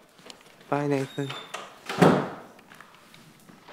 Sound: door slam

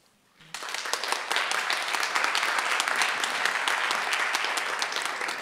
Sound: audience applauding

